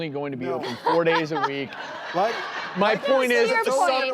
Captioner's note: audience laughing